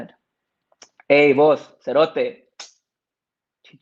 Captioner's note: speaks Spanish